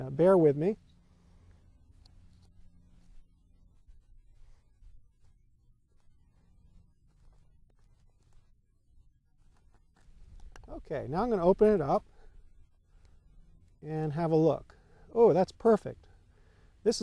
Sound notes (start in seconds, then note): 4.2 silence